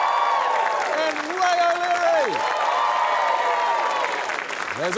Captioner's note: cheering, applause